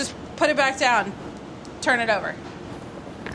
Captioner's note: none